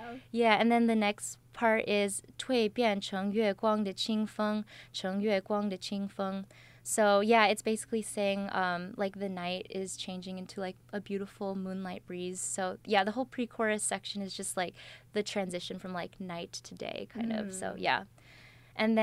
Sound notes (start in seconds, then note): 2.4 speaks in Chinese with pinyin